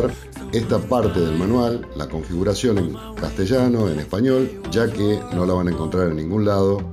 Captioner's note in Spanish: en español